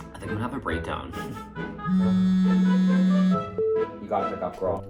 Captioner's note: phone vibrating